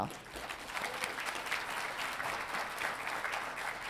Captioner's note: audience applauding